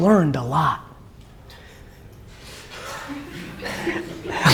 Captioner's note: audience laughs